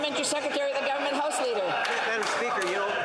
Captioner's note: applause